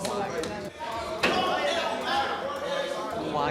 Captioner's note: yelling